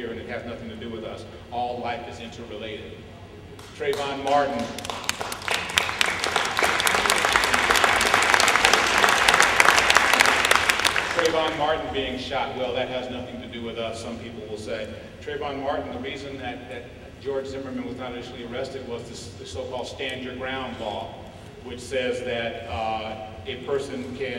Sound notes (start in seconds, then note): 3.8 applause